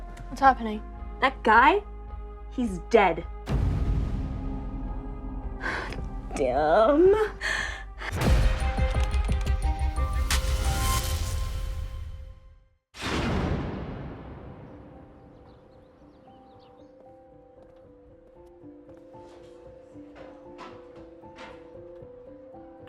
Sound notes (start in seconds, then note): 14.6 birds chirping